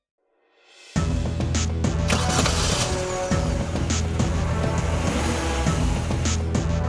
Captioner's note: suspenseful music; vehicle droning